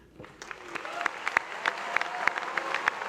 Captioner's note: applause